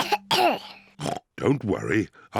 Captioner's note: coughs; oinks